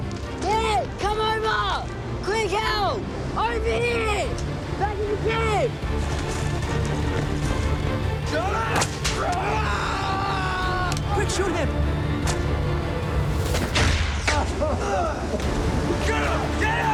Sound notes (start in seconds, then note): 4.5 indistinct chatter; 6.3 thrilling music; 9.1 Murrell screams; 11.8 whipping blows; 13.5 guns shots; 15.4 men shouting